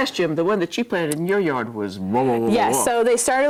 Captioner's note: moaning